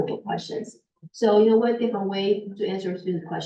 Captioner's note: muffled voice